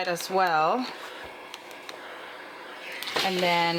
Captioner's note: iron steaming